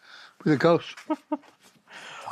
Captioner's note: chuckles